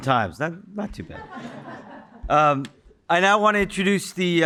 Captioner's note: audience chuckling